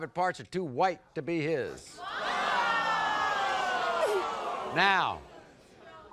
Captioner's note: audience groans